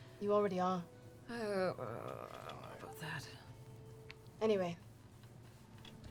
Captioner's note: groans